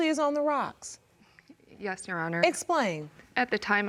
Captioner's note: sniffling